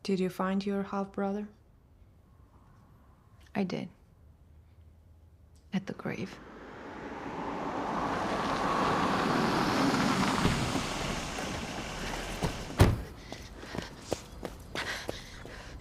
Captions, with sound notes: - Did you find your half-brother? - I did. At the grave. (engine rumbling)